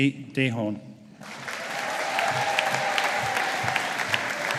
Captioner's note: audience applauding